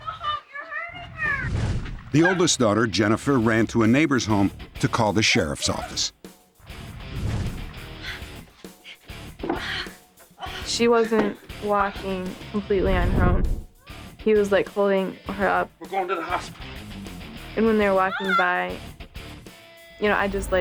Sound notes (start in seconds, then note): 9.4 gasping